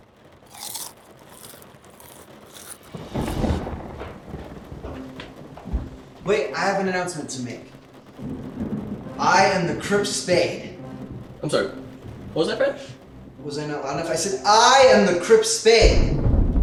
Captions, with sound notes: (chips crunching) (thunder rumbling) - Wait, I have an announcement to make. I am the Crypt Spade. - I'm sorry, what was that Fred? - Was I not loud enough? I said I am the Crypt Spade.